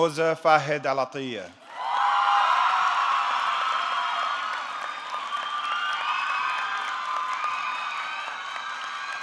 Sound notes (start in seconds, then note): 1.7 audience cheering; 1.7 audience clapping